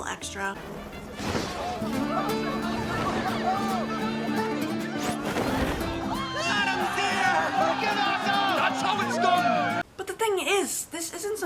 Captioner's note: crowd cheering